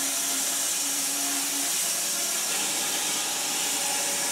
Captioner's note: saw whirring